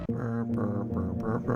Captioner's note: brm brm brmbrmbrm; brm brm